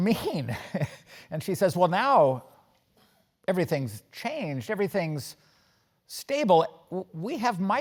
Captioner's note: laugh